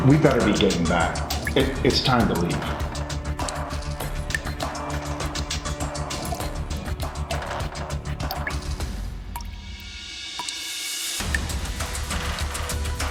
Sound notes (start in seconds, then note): 3.3 intense music; 5.4 water dripping